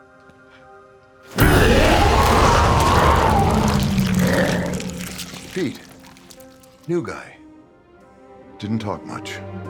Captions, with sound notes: (Pete wails) (dramatic music) - Pete, new guy. Didn't talk much.